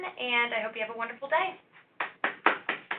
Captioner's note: applause